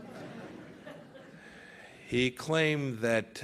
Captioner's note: laughter